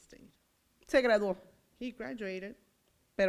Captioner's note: foreign language